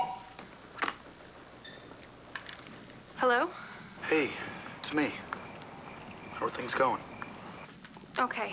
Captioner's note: phone rings